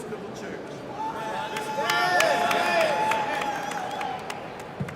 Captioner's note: audience cheers